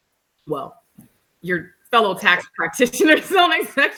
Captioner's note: laughs